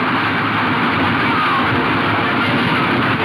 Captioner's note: horses galloping